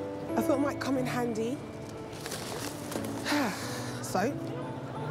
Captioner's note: exhales